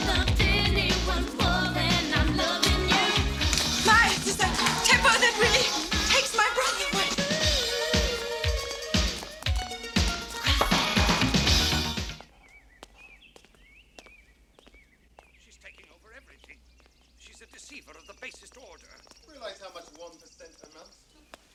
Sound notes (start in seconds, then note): 12.3 birds chirping